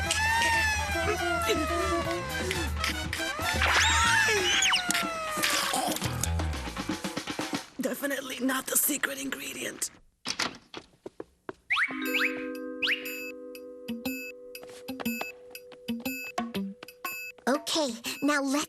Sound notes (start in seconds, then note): 0.6 gasping